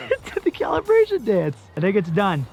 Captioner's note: laughing